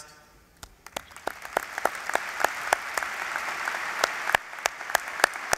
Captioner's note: applause